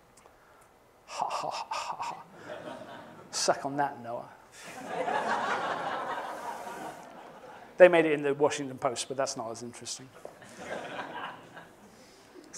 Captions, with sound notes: Ha-ha-ha-ha-ha. Suck on that, NOAA. [ Laughter ] They made it into the Washington Post, but that's not as interesting.